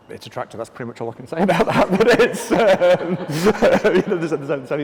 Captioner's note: laughs